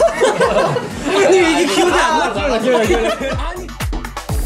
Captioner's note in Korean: 빵 터짐